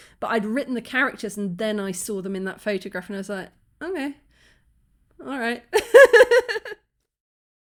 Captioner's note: laugh